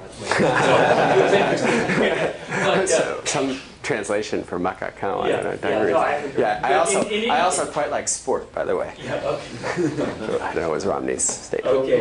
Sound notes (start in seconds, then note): 3.8 non-english; 9.5 chuckles